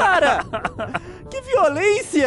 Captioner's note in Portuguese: Risada muita Risada